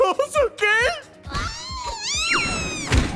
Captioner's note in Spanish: Chica Banzai grita